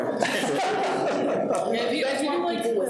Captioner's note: people laughing